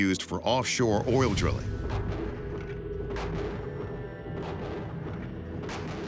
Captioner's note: slow thumping